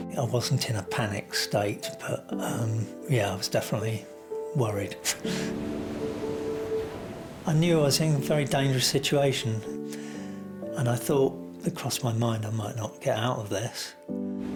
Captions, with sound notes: I wasn't in a panic state but, yeah, I was definitely worried. (soft music) (waves crashing) I knew I was in a very dangerous situation and I thought, it crossed my mind, "I might not get out of this."